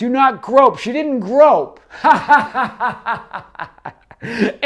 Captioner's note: laughs